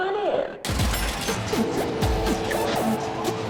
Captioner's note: pinball machine